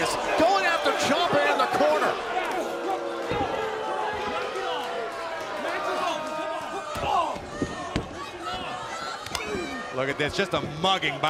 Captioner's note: crowd cheering